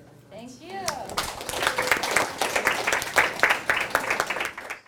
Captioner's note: applause